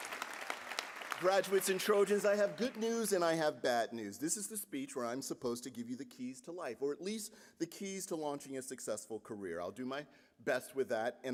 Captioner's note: applause